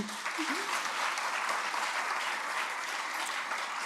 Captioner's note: chuckles; applause